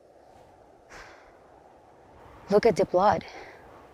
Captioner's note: expert sighs